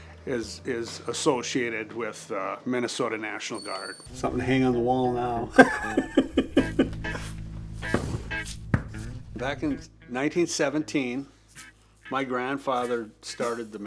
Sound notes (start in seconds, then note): 6.0 participant laughs; 7.5 bright music